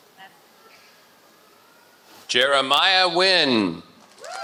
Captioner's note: applause